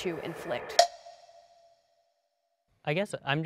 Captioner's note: clicking sound